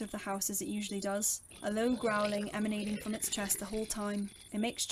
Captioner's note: wolf growls